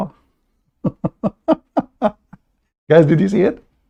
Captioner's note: Ketawa